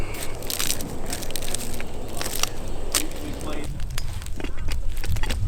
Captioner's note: tree cracking